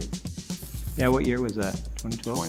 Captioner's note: paper ripping